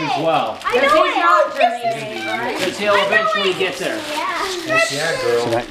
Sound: kids talking over each other

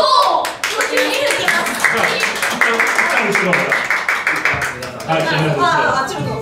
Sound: applause

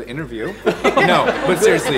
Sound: laughs

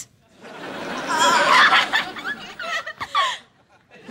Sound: laughing

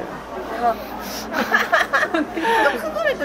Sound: laughing

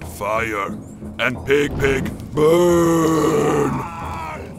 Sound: scream

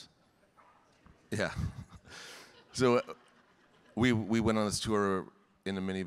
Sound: chuckling

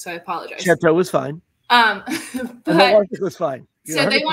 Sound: laughter

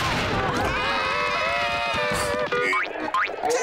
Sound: screaming

